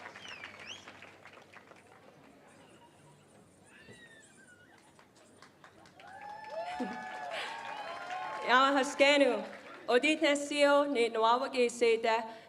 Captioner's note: cheering and applause